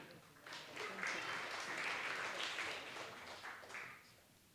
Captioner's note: applause